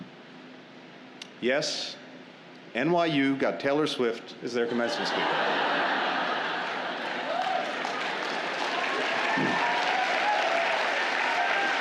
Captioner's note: laughter and applause